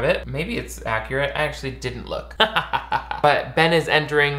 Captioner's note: laughs